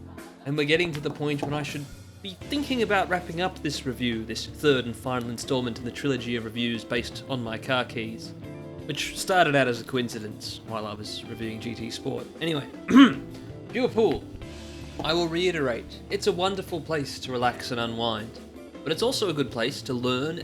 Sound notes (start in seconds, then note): 12.8 ahem